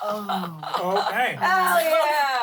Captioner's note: laughs